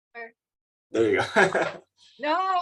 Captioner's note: laughs